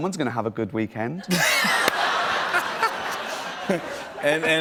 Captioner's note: laughter